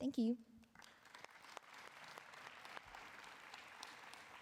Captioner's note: applause